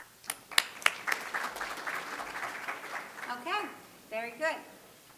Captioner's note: audience clapping